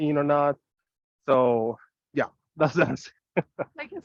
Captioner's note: chuckles